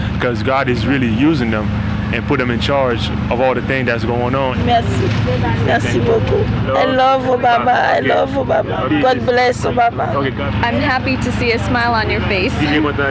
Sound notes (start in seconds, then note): 5.3 in Creole